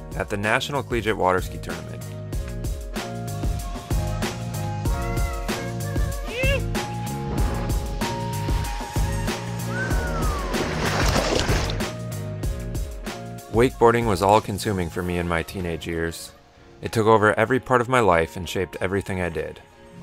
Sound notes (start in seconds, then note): 3.0 upbeat music; 9.5 whistles